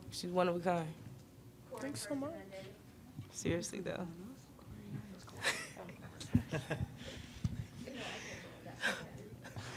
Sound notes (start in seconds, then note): 6.3 Aliyah and Zia laughing; 6.7 laughing